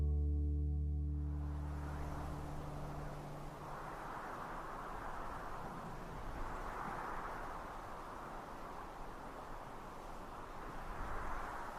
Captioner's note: wind blowing